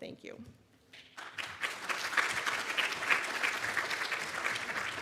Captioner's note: audience clapping